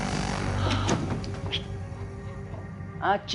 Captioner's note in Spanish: Sonido al abrir la puerta